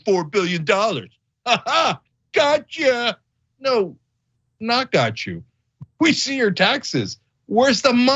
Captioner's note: laugh